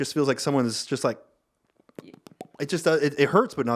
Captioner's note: making popping sounds